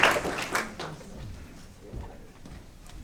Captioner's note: applause